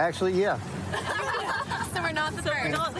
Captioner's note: laughter